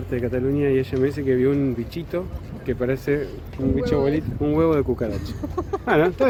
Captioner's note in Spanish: chiste y risas